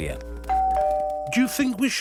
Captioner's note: doorbell rings